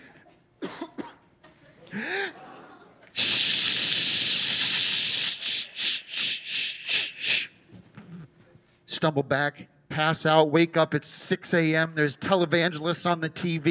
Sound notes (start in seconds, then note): 0.5 coughing; 2.9 imitating urinating